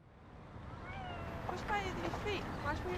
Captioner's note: talking softly